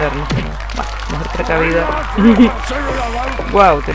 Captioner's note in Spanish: risas